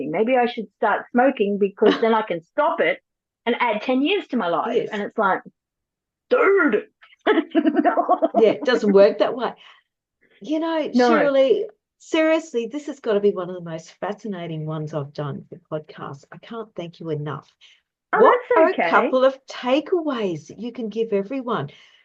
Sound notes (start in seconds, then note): 7.2 laughs